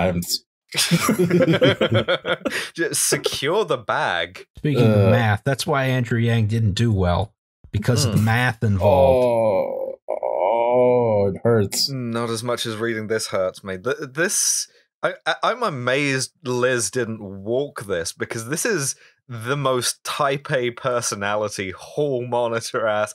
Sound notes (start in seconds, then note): 0.7 laughter; 8.8 groans in pain